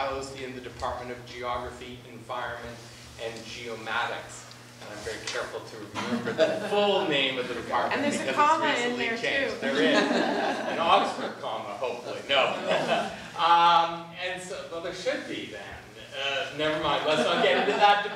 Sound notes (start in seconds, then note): 6.0 class laughing; 9.6 class and panel laughing; 13.9 laughing